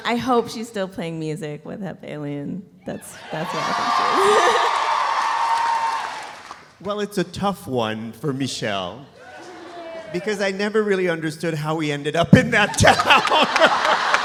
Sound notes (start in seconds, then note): 3.4 audience applauding; 3.9 laughs; 4.6 audience cheering; 12.6 audience laughs; 12.7 laughs; 12.7 audience applauding